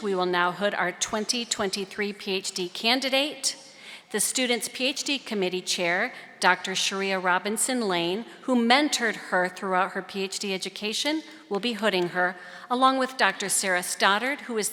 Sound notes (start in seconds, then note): none